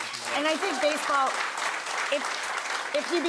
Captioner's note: audience clapping